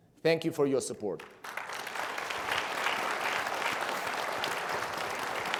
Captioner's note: everybody applauds